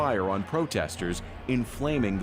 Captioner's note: gunshots